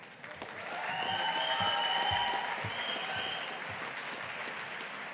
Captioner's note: audience applauding